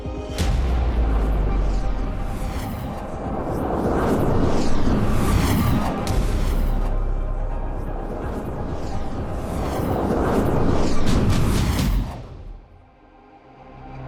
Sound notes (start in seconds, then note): 1.8 flares whooshing